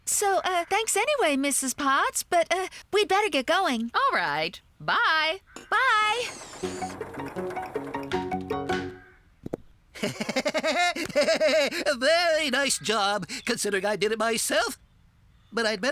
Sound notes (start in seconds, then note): 8.4 tap! Tap!; 9.9 laughing